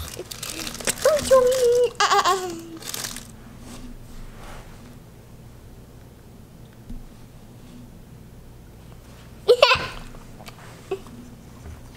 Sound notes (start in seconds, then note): 1.1 babbling; 9.5 giggling